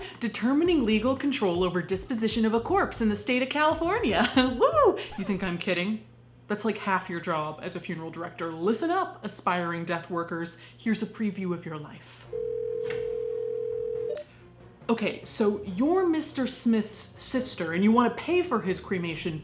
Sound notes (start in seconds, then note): 4.2 laughing; 12.3 phone ringing